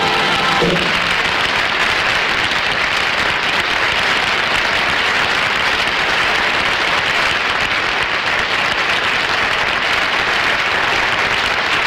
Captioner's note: audience Applauding